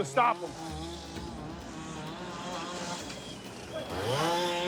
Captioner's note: chainsaw engine